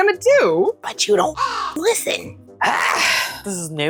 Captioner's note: caw